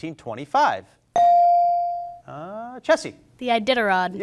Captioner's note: bell rings